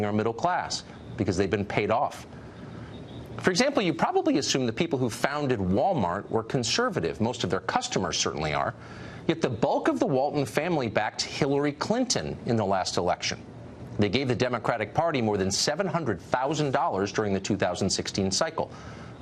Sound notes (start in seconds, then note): none